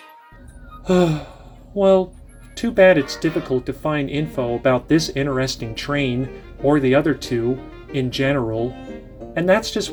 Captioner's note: sigh